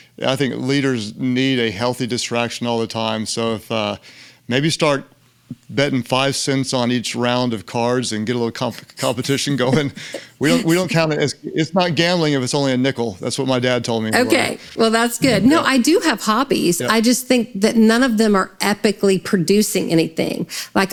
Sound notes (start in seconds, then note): 8.6 laughs; 8.7 Lysa laughs